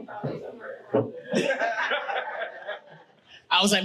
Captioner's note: audience laughing